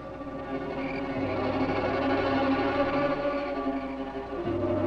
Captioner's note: insects chirping